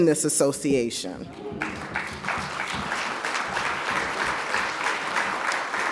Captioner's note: audience applauds